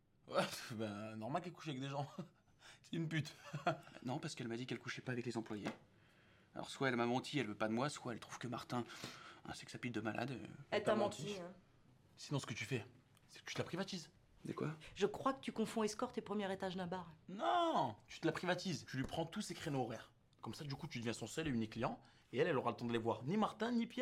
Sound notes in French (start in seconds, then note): 10.2 en choeur